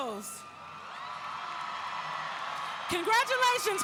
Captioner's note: audience cheering